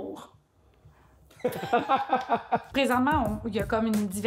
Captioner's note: laughs